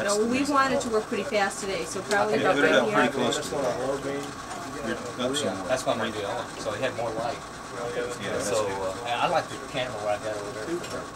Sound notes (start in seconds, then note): 6.3 men talking in background